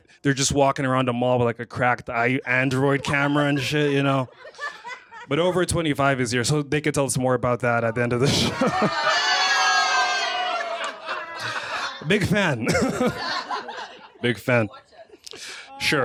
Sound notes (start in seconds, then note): 9.7 laughter